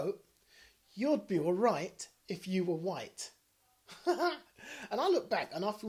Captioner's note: laughs